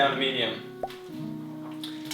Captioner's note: bubble pop